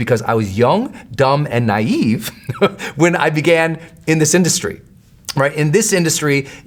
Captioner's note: laughs